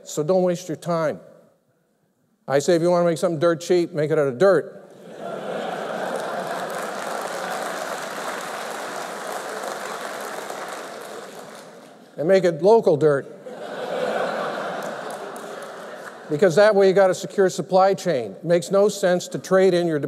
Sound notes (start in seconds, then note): 8.3 applause; 13.4 laughter